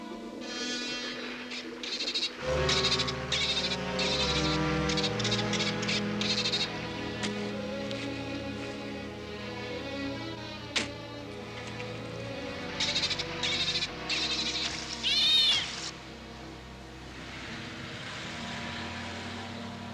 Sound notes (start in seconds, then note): 0.0 music slows; 4.4 Flipper chattering frantically; 12.6 Flipper chattering